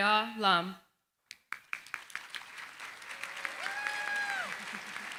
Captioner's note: applause